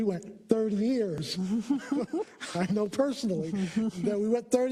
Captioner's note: laugh